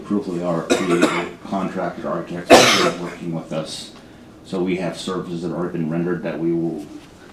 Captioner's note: cough